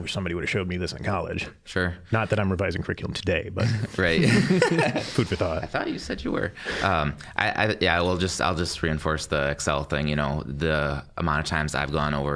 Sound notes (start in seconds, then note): 3.6 all chuckling